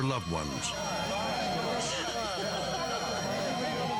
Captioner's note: sirens wailing